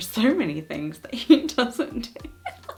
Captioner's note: laughs